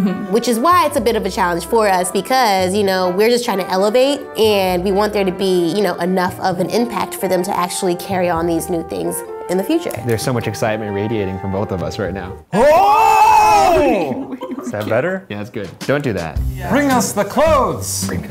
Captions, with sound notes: Which is why it's a bit of a challenge for us because, you know, we're just trying to elevate and we want there to be enough of an impact for them to actually carry on these new things in the future. - There's so much excitement radiating from both of us right now. (shouting) - Is that better? - Yeah, that's good. Don't do that. - Bring us the clothes.